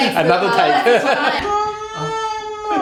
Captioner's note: laughter